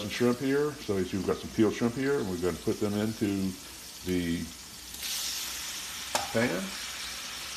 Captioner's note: sizzling